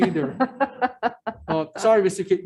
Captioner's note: woman laughs